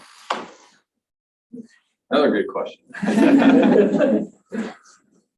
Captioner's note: laughter from panel & audience